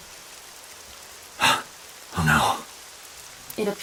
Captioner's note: gasp